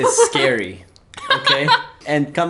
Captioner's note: laughs